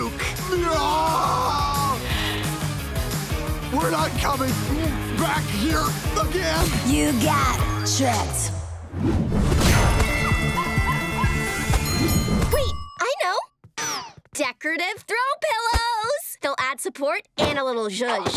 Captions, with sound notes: [screaming] We're not coming back here again. You got tricked. [music playing, screaming] [dinging] Wait. I know. Decorative throw pillows. They'll add support and a little zhuzh.